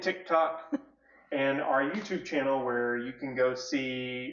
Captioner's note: laughs